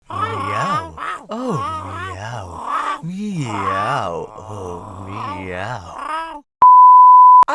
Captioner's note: cacophony of self-made cat noises